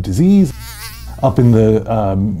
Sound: mosquito flying

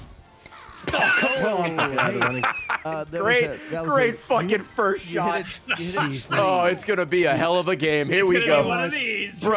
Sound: laughs

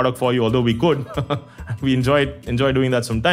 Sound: laugh

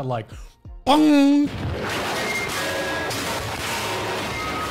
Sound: body parts breaking

